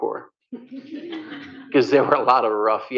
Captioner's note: laughter